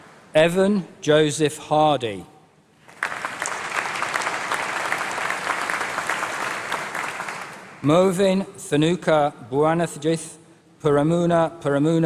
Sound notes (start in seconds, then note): 2.8 applause; 10.1 applause